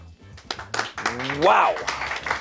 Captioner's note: audience members clapping